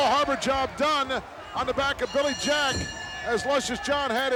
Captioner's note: bell rings